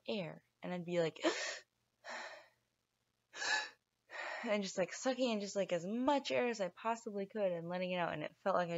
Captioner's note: gasp!